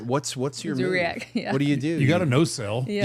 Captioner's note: participant chuckling